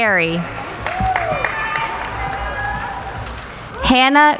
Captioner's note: applauding